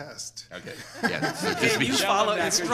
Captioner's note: laughs